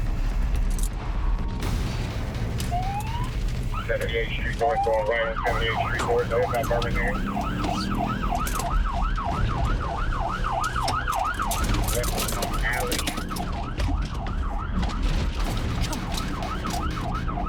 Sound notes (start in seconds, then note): 2.8 sirens wailing